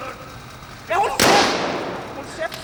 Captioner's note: gunshot